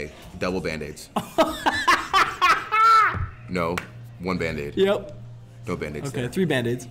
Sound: laugh

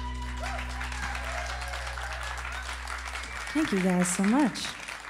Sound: cheers and applause

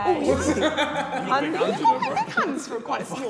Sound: Sidemen laughing

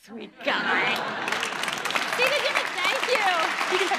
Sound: applauding

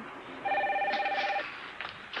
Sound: phone rings

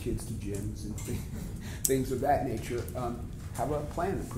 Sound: laughs

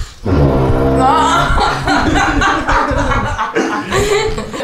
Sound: laughes

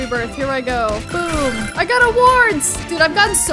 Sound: bell dings; filling up sound plays

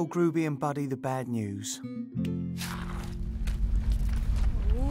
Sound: deep rumbling

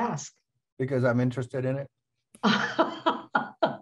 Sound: laughter

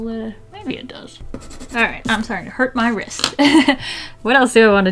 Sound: laughs

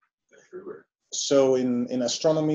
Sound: chatter

